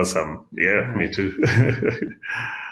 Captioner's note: chuckles